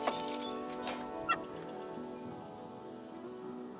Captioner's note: birds chirping